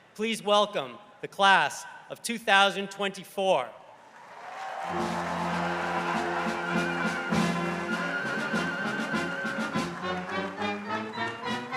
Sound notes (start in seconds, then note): 4.1 crowd cheering; 8.2 lively orchestral music